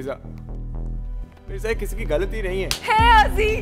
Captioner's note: Slaps